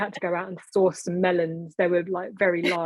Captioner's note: laughing